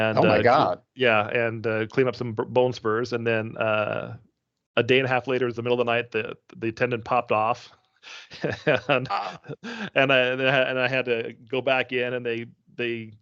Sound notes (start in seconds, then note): 8.0 chuckling